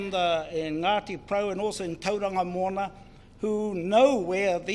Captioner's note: speaks in foreign language